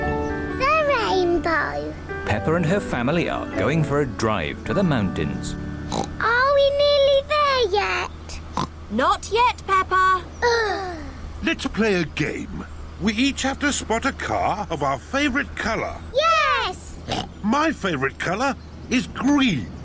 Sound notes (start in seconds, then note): 5.8 oinks; 8.5 oinks; 10.4 both sigh; 17.0 oinks